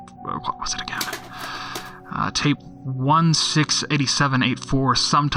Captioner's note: sound of rummaging through cassettes